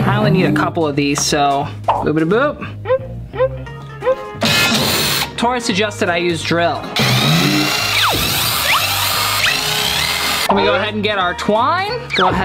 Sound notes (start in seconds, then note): 4.4 drill buzzes; 4.4 drill tool screeches; 6.9 drill buzzes